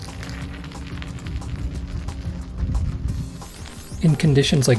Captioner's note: sound of studs biting into the ice